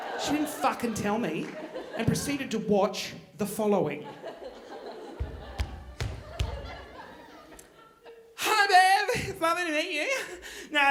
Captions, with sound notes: She didn't fuckin' tell me and proceeded to watch the following. (footsteps thudding) Hi Bev, it's lovely to meet you.